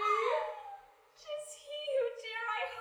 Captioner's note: squeals